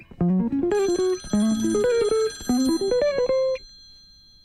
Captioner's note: phone rings